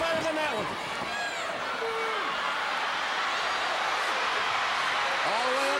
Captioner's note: crowd cheering